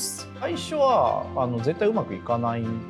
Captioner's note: non-english speech